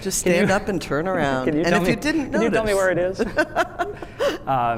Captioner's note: laughs